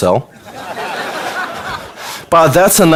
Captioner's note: audience laughter